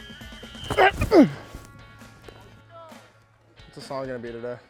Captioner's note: grunting